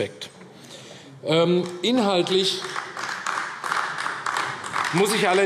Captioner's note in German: Beifall AfD